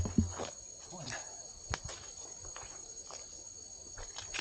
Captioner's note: feet squelching in mud